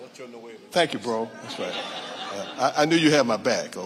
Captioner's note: audience laughing